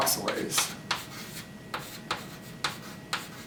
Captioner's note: chalk tapping